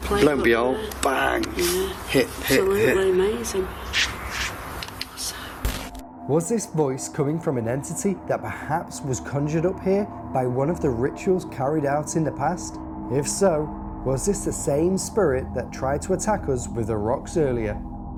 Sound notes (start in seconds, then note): 3.9 scratching; 5.9 static